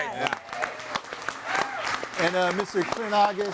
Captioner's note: audience applauds and cheers